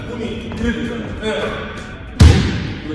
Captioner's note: clean shot sound